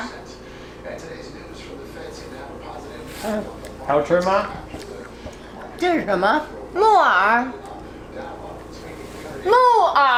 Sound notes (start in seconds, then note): 3.9 speaking Chinese; 5.8 grandma speaking Chinese; 6.8 speaking Chinese